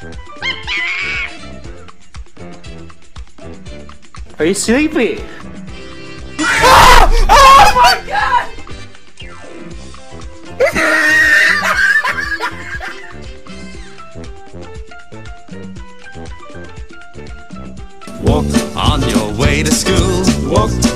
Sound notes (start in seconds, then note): 6.4 FNAF 2 Scream; 11.3 wheeze